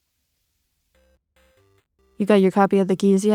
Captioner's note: game sounds